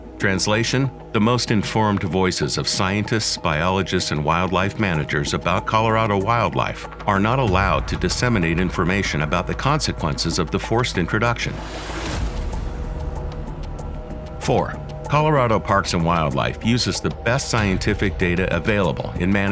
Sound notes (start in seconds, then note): 11.2 air whips